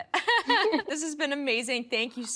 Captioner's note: both laughing